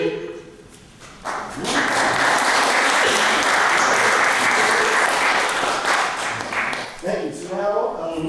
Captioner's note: applause